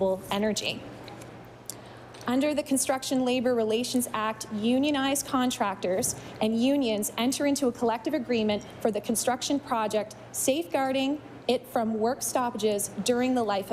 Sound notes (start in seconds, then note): none